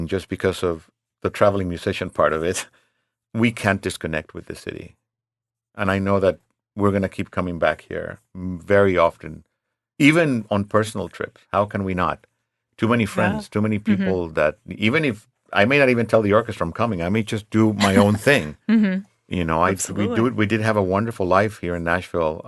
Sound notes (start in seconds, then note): 17.7 laughs